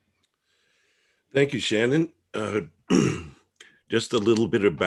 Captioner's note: clears throat